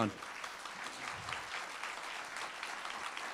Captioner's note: applauding